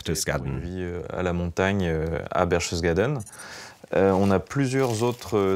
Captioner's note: French spoken audio